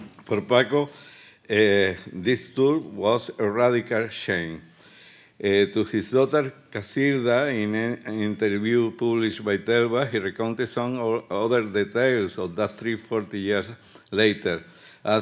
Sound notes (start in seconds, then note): 9.7 speaking Spanish